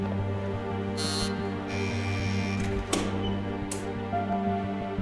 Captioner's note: buzzer buzzing